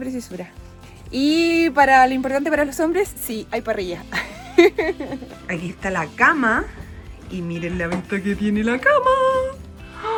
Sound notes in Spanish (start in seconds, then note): 4.1 risas